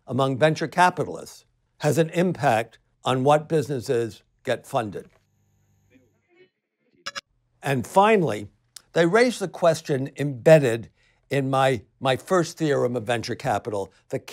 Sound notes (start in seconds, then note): 7.0 digital blip